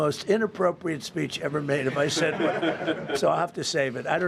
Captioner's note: laughter